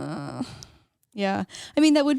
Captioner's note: groans